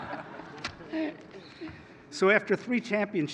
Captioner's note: laughter